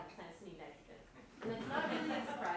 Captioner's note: laughter